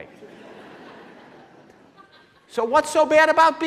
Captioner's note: laughing